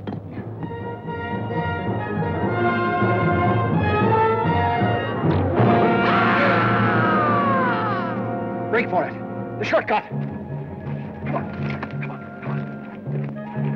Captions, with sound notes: (Joshua screams) (Laura gasps) Break for it! The shortcut! Come on. Come on, come on.